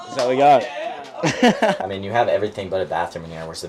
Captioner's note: laughs